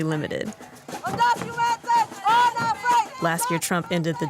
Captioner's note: protesters yelling